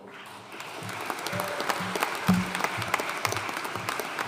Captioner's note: audience applauding